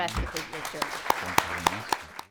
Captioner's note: applause